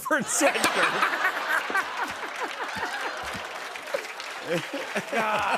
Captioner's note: laughter and applause